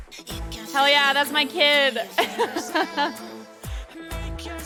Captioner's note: laughs